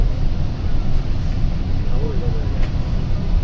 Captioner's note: people chattering